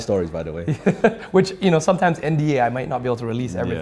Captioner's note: laughs